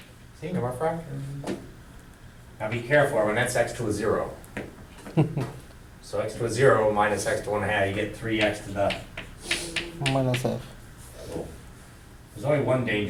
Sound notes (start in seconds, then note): 5.0 laughter; 10.6 voiceover